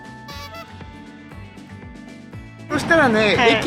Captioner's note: laughs